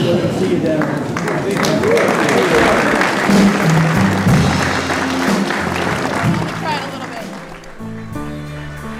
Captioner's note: applause